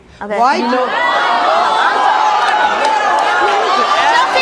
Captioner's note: audience hollering